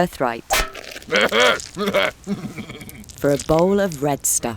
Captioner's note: Esau chuckles